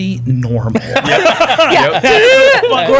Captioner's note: laughter